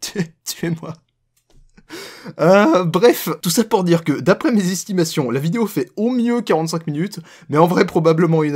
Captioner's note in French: Rire